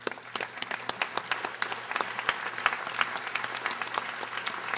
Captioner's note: audience applauding